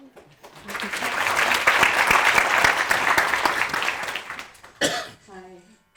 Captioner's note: audience applauding; audience laughing